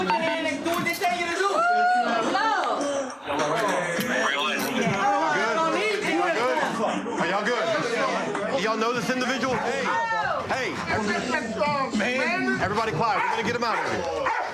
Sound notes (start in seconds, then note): 3.5 yelling